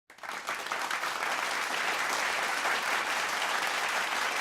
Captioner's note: audience clapping